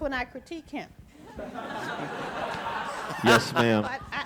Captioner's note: audience laughing